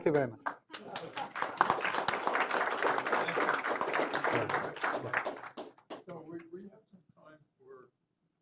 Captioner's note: applause